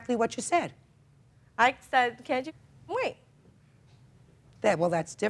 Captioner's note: muted